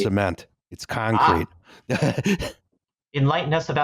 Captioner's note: laughs